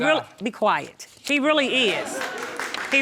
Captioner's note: audience cheering